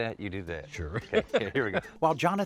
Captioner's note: laughs